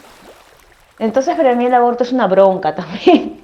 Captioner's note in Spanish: sonidos de agua, hormigas y voz off femenina #6; risas